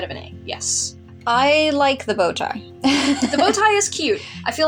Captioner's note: laugh